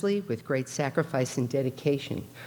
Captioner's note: none